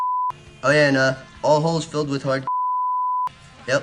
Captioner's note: beep; beep